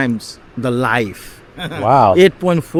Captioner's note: chuckles